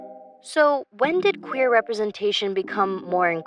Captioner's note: computer Voice